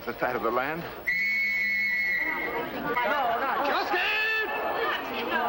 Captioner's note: whistle blowing